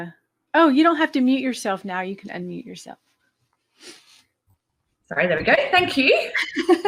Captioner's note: laughing